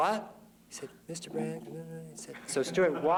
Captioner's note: mutters